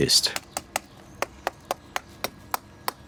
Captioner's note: A dull clack